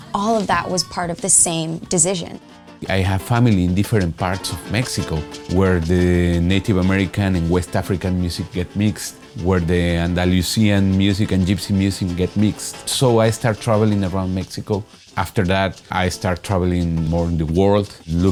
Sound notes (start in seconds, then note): none